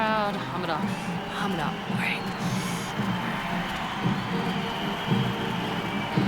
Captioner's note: audience cheering; upbeat music